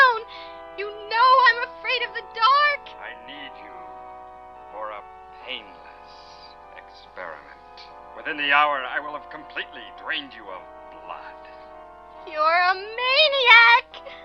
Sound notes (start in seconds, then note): 0.0 woman on Radio; 2.8 man on Radio; 11.9 woman on Radio